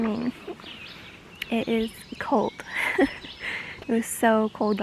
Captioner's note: laughs